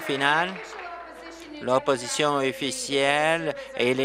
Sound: applause

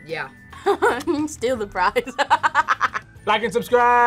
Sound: laughs

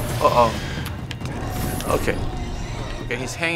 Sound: Leviathan shrieks

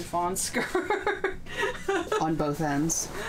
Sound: laughing

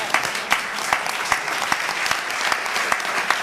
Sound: applause

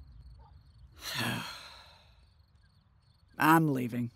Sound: sighs

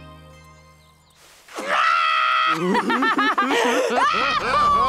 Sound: kids laughing

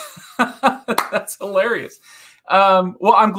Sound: laughing

